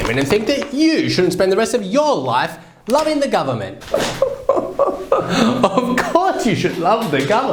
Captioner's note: scoffing